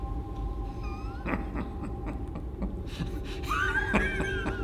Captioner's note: laughing